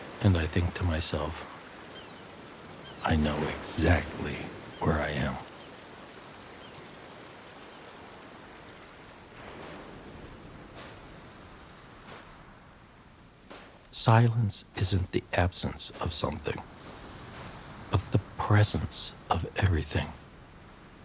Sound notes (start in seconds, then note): 0.0 waves crashing; 10.6 footsteps on sand